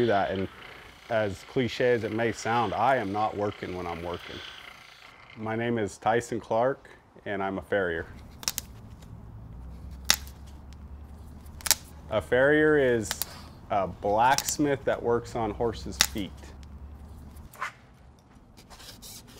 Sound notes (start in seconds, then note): 8.7 hooves breaking; 8.7 pliers cutting